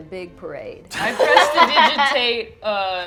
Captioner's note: laughter